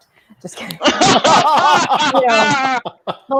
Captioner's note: laughing